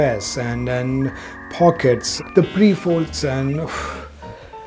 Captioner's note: huffs